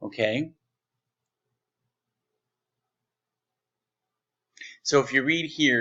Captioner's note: silence